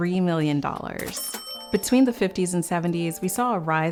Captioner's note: coins dinging